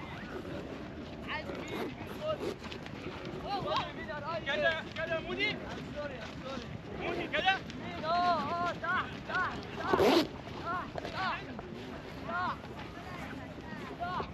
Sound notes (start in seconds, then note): 7.6 footsteps; 11.4 speaking in foreign language